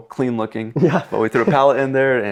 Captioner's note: laughs